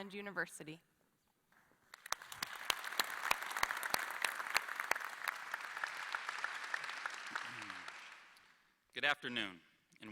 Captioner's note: applause